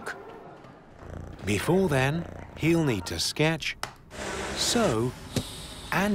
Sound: cat purring

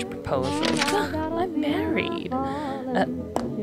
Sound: sigh

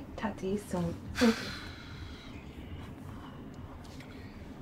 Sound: Bryan sighing

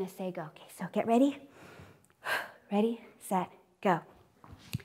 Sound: inhales and exhales

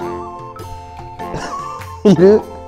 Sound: laughs

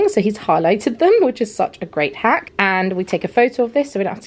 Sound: none

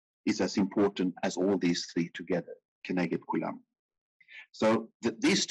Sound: speaking in foreign language

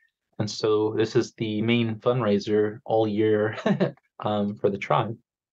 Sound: chuckles

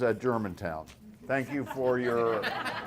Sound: laughter

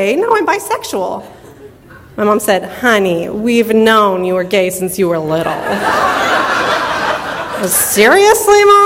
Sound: audience laughter

